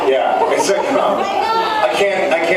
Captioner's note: laughs